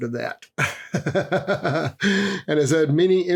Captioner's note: laughs